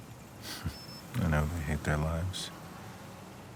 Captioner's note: chuckles